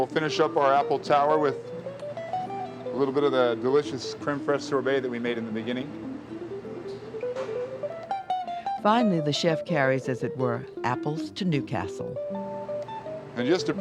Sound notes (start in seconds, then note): 9.0 voiceover